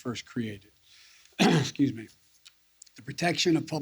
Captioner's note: clears throat